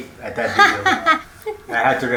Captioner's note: laughs